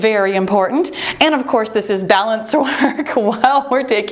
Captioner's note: laughs